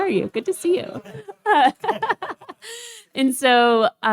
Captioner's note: laughs